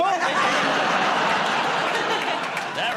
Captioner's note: laughter